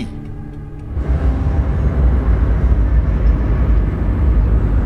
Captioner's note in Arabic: طنين آلي